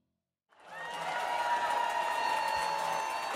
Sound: audience applauds and cheers

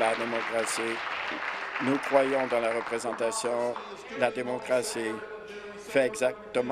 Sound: applause

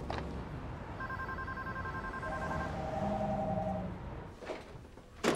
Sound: phone ringing

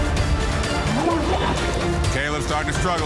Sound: water gurgling

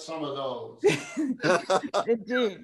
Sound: laughter

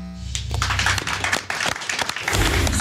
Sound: clapping

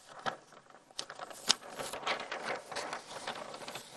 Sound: paper rustling

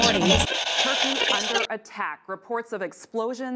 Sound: radio tuning

